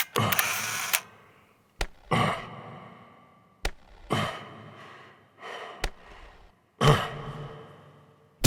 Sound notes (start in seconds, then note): 0.0 camera shutter clicks; 3.7 rhythmic thuds resound